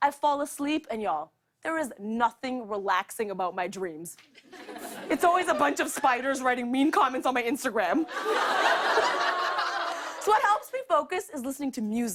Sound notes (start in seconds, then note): 8.0 laughter